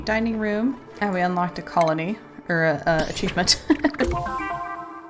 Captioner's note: laughs